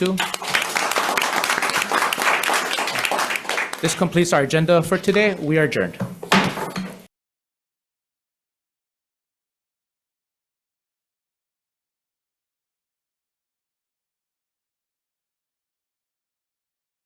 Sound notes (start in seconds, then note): 0.0 members applauding; 6.0 gavel bangs